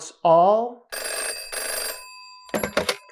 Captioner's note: phone rings